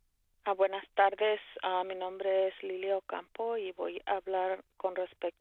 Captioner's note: speaking Spanish